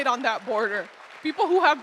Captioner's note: audience applauding